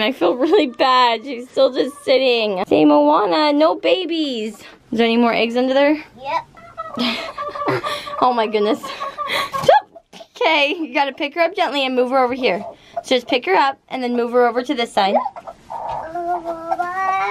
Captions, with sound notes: I feel really bad, she's still just sitting. Say Moana no babies. Is there any more eggs under there? - Yup. (clucking) - Oh my goodness. (laughing) Okay you've got to pick her up gently and move her over here. Just pick her up and move her over to this side.